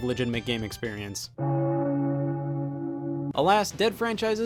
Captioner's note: bell toll